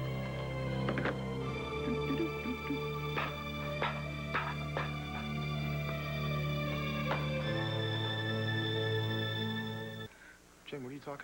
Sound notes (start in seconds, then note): 3.4 max hums